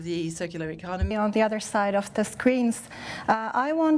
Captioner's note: speaking in French